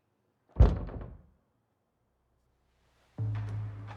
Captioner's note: door thumping; suspenseful music